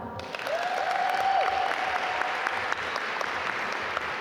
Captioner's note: audience applaud